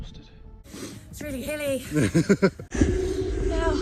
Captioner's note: unsympathetic laugher